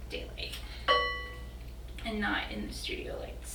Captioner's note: ding